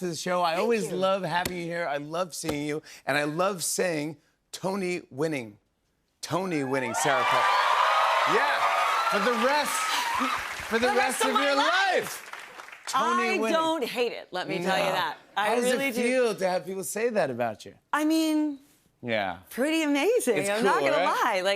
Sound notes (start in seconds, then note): 6.7 cheers and applause